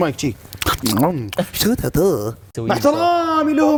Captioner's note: annoying chewing sounds